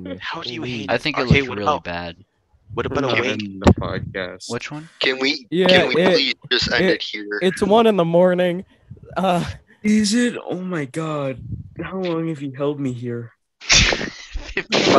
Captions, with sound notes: - What you're doing is the opposite of help. - Don't move. - Look, time out. - Would you-- [Grunts] Okay. What do you propose we do? Blue flower, red thorns. Blue flower, red thorns. Blue flower, red thorns. This would be so much easier if I wasn't colour-blind!